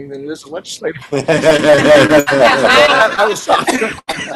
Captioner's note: laughter